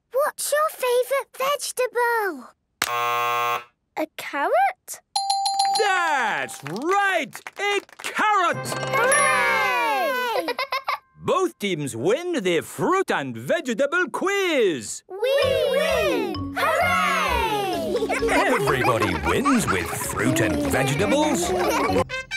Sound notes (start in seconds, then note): 2.8 buzzes; 5.2 dinging